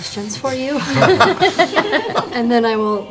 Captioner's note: laughter